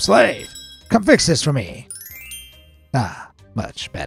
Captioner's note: bell ringing